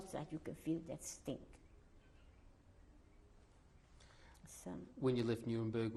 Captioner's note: pauses for 3 seconds